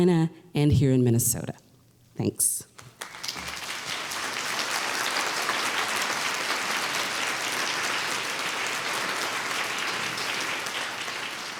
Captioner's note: applause